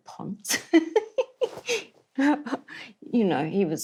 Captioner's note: laughs